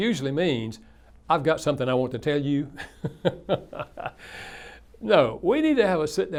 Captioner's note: laughs